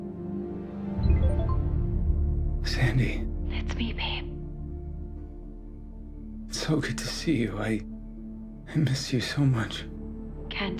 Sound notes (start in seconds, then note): 1.1 cell phone chiming